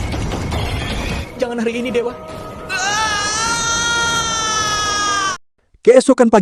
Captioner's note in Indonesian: menangis